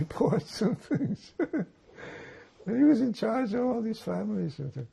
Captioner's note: laughing